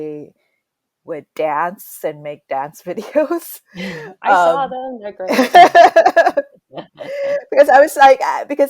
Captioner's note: both laugh